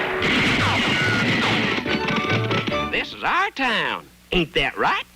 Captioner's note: gun banging